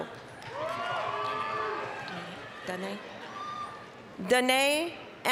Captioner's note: applause, cheering